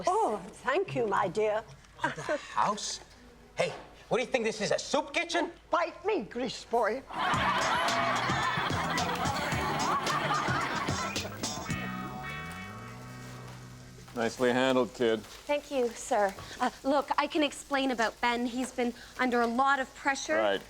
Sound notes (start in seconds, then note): 7.1 audience laughs; 7.1 upbeat music